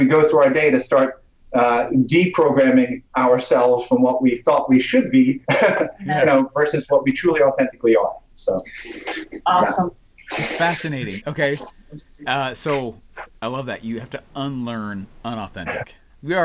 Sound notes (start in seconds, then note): 5.5 laughs